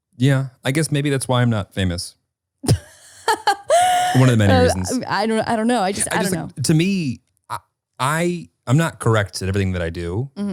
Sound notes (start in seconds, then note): 2.6 laughing